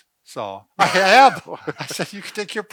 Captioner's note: laughs